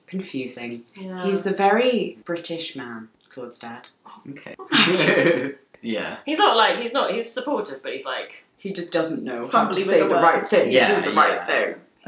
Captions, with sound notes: - Confusing, he's a very British man, Claud's dad. - Okay. (laughing) Yeah. - He's not like, he's supportive, but he's like-- - He just doesn't know how to say the right thing. - Fumbly with the words. - Or do the right thing.